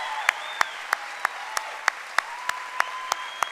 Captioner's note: cheering and applause